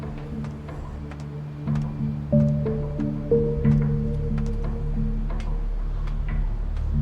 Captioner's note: footsteps thudding; metal clanking